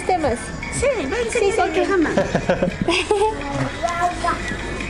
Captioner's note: laughter